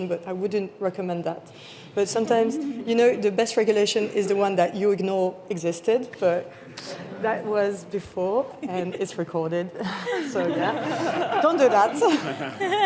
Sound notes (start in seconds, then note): 5.6 audience laughing; 9.8 panellists laughing; 9.8 chuckles